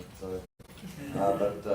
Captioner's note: laughing